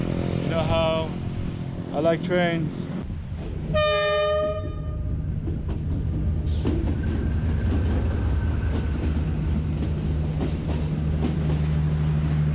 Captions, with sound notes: you know how I like trains. (train horn blasting and train wheels clicking on rails)